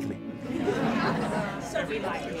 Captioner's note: laughing